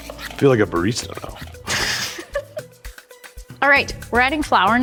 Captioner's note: laughs